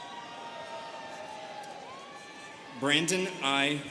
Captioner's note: students cheering